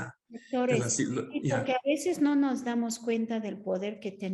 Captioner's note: Sandra speaking Spanish